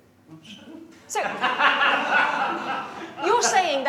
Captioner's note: laughter